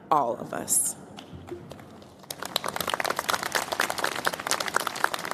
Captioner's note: applause